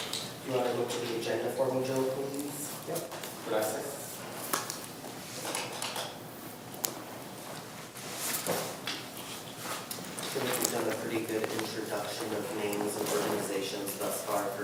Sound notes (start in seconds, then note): 5.0 thanks Joe in Spanish